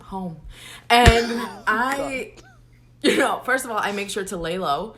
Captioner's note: laughs